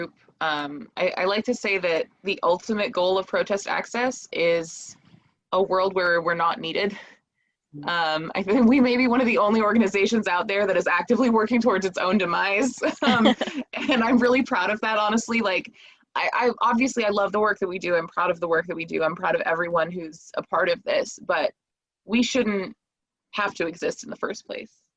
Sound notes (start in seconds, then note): 12.2 laughing